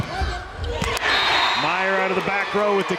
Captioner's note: crowd cheering